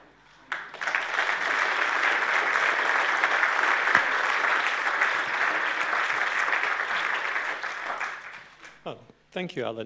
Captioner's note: applause